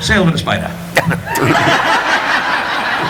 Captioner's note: audience laughing; gulping